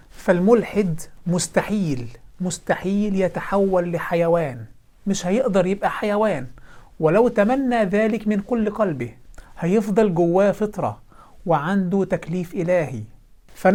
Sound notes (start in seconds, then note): none